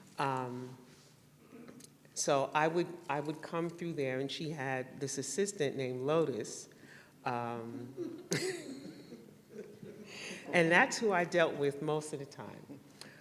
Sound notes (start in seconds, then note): 1.1 laughter